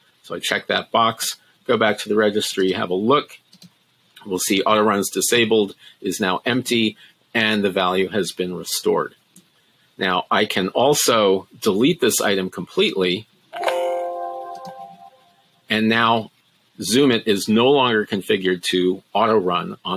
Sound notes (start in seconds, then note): 13.5 Windows notification beeping